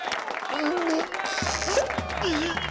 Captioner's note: groan; whimper